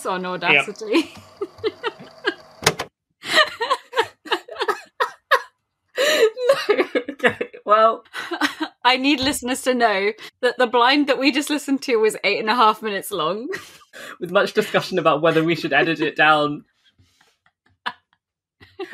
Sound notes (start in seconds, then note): 0.3 tape recorder stops; 1.3 laughing; 6.0 laughing; 15.2 laughing